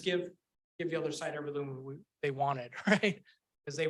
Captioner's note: chuckles